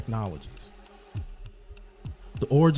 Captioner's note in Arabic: دقات الساعة